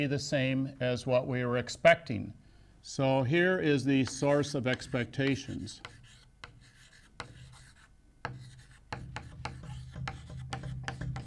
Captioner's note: chalk sounds